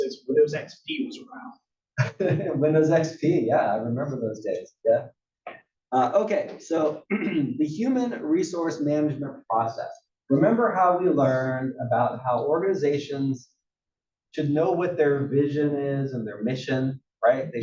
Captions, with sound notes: >> Windows XP was around. >> [LAUGH] Windows XP, yeah, I remember those days, yeah. Okay, so [COUGH] the human resource management process, remember how we learned about how organizations should know what their vision is and their mission, right?